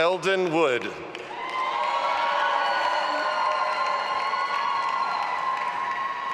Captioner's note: audience applauding and cheering